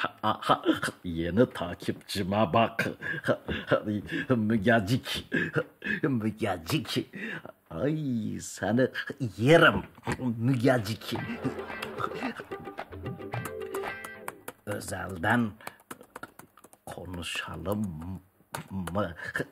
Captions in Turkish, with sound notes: Aha! Yeni takipçime bakın. Ahi, Mügecik! Mügecik! Ayy! Seni yerim. Mügecik! (Öpücük sesi) (Klavye sesi) Özelden. Konuşalım mı?